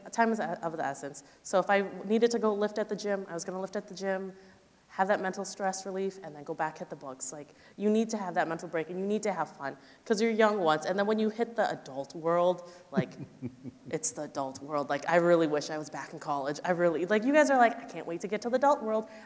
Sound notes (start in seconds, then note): 12.9 chuckling